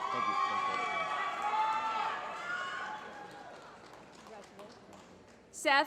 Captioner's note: applause